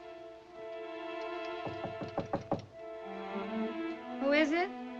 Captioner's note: knocking